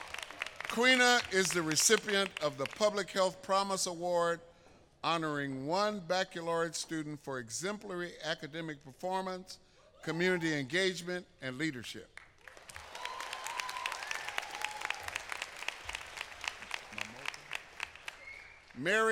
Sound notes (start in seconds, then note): 0.0 applause; 4.3 applause